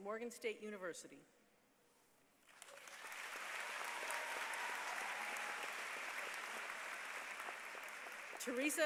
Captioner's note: applause